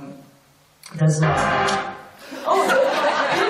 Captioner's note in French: grand bruit dans la salle; rires